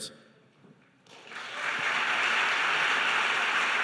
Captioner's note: applause